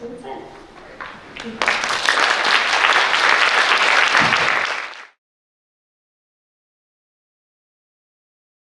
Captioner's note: applause